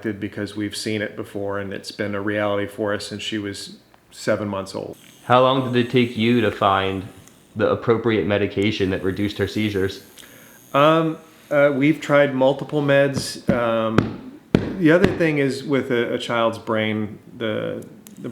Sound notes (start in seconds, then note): 12.7 hand thudding